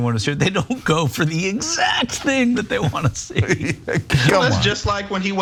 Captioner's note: laugh